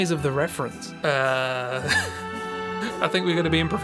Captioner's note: laughs